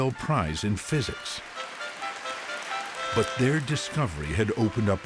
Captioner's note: applause